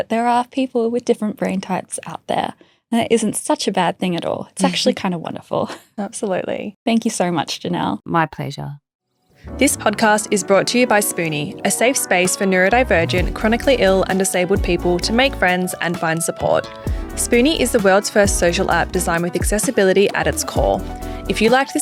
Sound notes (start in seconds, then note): 4.6 chuckling; 6.1 chuckling